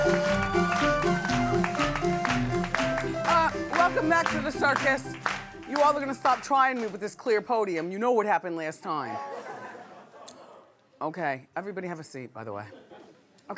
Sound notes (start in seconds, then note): 0.0 clapping; 9.2 laughing